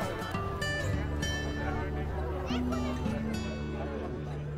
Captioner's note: crowd chatters